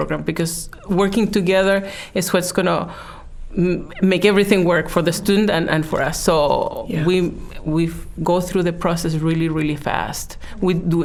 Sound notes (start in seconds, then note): none